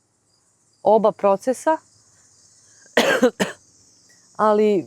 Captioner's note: cough